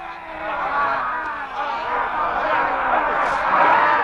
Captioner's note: men roaring